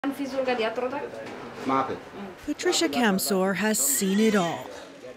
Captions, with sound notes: [Foreign] Patricia Kamssor has seen it all.